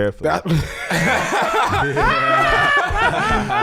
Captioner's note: laughing